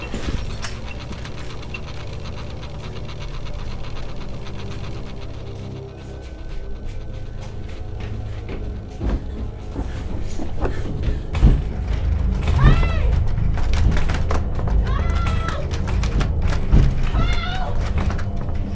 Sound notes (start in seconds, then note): 0.0 electricity buzzing continues; 0.3 items rattling; 0.3 unsettling music; 8.7 wood reverberating underfoot; 11.5 metal rattling